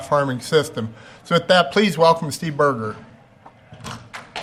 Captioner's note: clapping